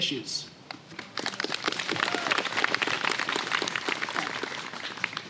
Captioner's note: applause